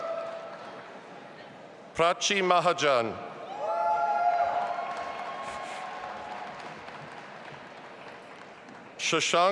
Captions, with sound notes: Prachi Mahajan. (audience applauding and cheering)